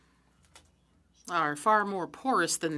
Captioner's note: speaking French